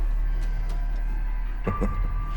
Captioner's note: chuckles